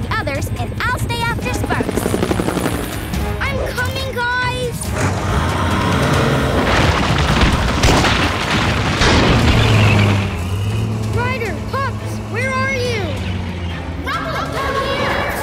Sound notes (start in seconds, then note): none